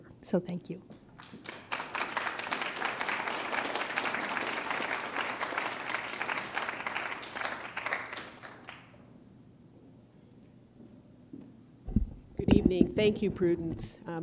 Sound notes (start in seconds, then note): 1.1 applause